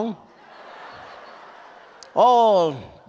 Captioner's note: audience laughs